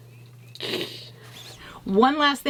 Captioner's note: snickering